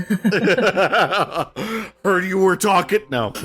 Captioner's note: laughter